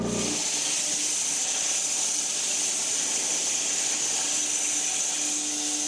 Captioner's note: woodcutting machine hissing